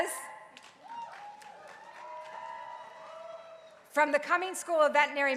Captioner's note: crowd cheering